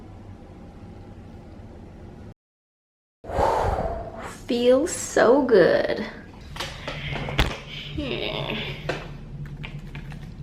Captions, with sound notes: *whooosh* feels so good